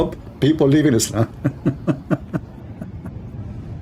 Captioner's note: Ketawa